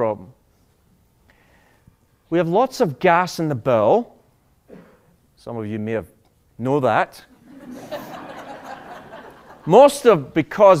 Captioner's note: laughter